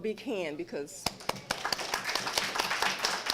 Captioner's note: applause